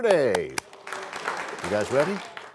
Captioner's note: applause